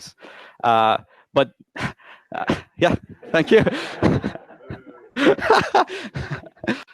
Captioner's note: laughs loudly